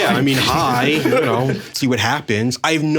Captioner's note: all chuckling